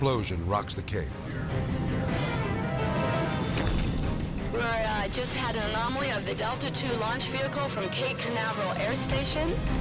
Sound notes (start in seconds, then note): 3.5 rocket debris thudding